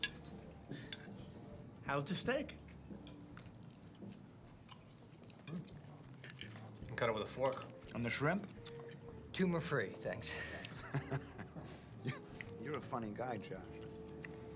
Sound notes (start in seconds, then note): 10.3 laughs